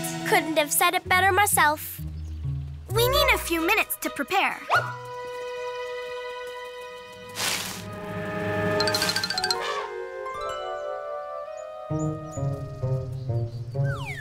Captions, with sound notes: - Couldn't have said it better myself. - We need a few minutes to prepare. (dramatic music) (Elephant trumpets) (light music)